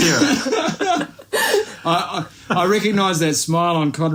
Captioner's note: laughs